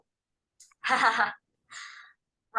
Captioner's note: laughs